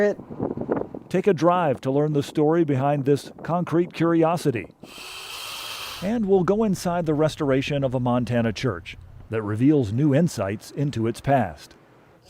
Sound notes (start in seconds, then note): 4.9 drill whirring